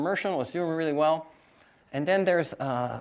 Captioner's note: none